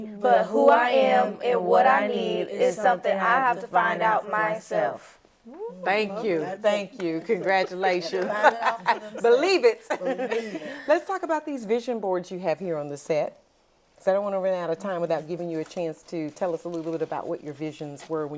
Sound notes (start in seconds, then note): 7.1 laughs